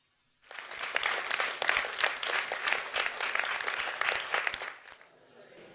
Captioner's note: applause